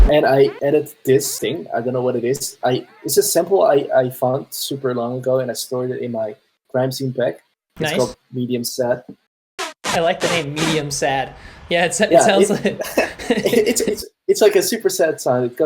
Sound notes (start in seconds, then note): 12.5 laughter